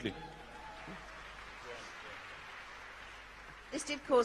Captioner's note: applause